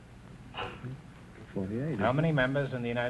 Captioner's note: whispering